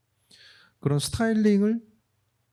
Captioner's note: speaking korean